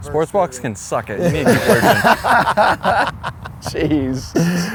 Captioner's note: laughs